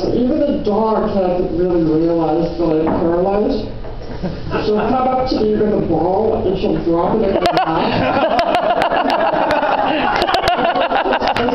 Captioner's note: laughter